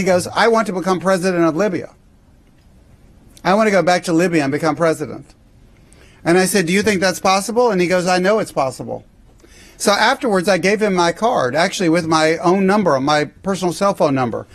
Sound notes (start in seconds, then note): none